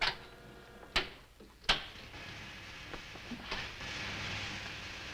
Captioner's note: buttons snapping